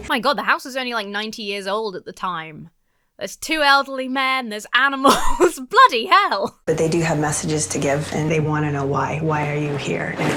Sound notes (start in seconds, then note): 5.0 laughs